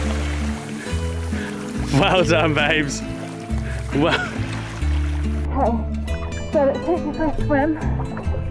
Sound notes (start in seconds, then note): 3.8 laughing